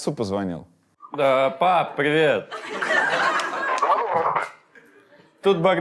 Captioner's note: audience laughs